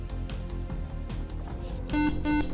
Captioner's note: beep